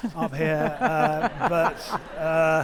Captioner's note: audience laughing